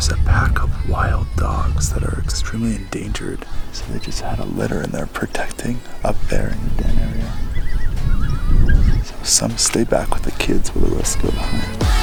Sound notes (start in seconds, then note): 7.3 dogs whining loudly